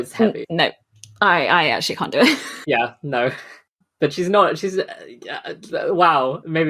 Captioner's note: stammering